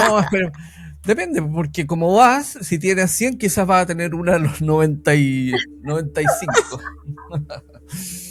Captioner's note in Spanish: risas